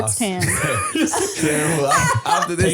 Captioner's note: laughing